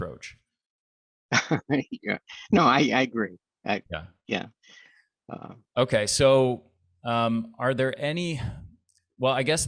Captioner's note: chuckles